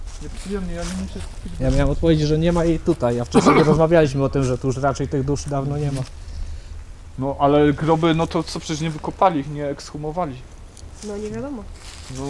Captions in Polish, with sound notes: nieprzyjemnie. Ja nie muszę, ja miałem odpowiedzieć, że nie ma jej tutaj, a wcześniej [śmiech] rozmawialiśmy o tym, że tu już raczej tych dusz dawno nie ma. No ale groby, no to co? Przecież nie wykopali ich, nie ekshumowali. No nie wiadomo.